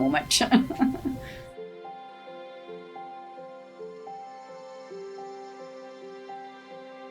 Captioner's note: gentle upbeat music; laughs